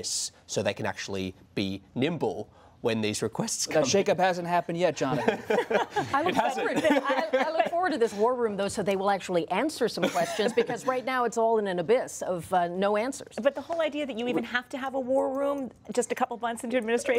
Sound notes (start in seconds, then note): 5.1 laughter